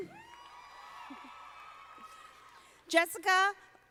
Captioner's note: audience applauding